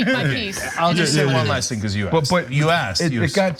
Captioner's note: laugh